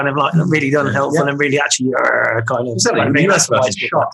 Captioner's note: roaring